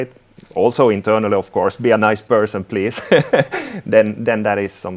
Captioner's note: laughing